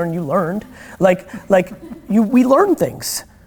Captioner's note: laughter